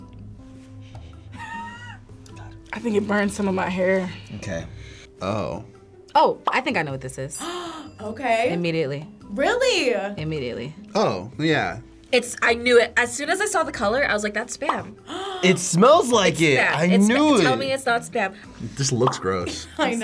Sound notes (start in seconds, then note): 0.3 sniffing; 1.4 chuckling; 7.4 gasping; 7.6 bell dinging; 14.6 bubble popping; 15.0 gasping